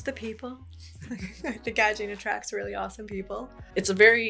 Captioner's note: laughs